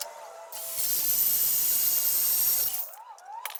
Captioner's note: machine buzzing